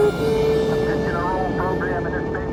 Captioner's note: man over TV